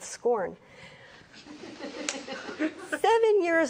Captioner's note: audience laughs